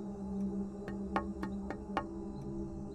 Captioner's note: Jannat knocking on the door